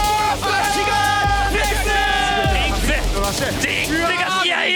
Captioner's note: foreign language